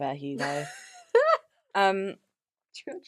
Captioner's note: laughs